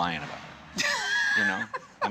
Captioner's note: laughs